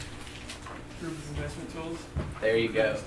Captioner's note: voiceover